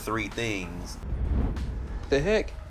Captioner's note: whoosh